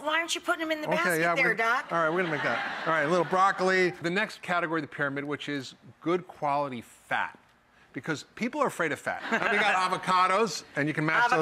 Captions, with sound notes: Well why aren't you putting them in the basket there, Doc? (audience laughing) All right, a little broccoli. The next category of the pyramid, which is, good quality fat because people are afraid of fat. We've got avocados, and you can mash those up and make--